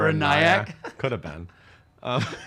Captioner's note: laughs